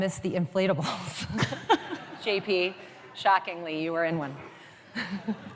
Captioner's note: laughs